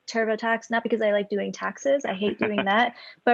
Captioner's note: laughs